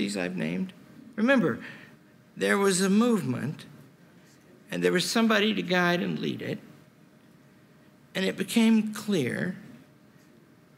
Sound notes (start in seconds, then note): none